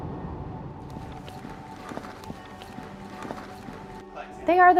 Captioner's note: liquid sloshing